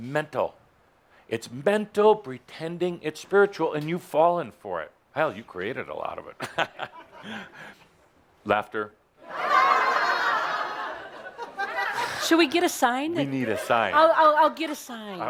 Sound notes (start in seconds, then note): 6.4 chuckles; 9.2 audience dutifully laughs